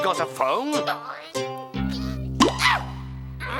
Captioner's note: grunts